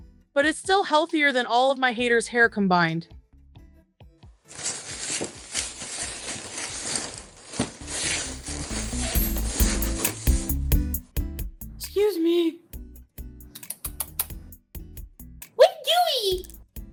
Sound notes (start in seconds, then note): 4.5 rummaging through luggage; 13.3 Chantal making noises to get Julia's attention